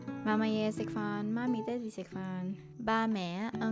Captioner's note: Cantonese